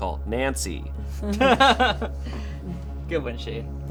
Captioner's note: laughing